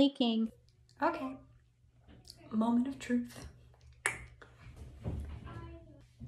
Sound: tongue clicks; child indistinctly singing

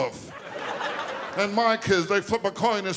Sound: audience laughing

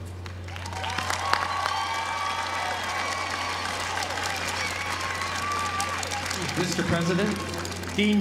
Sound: applause

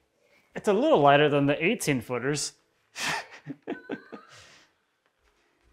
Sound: laughs

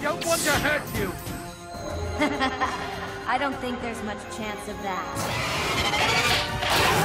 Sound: evil laughing

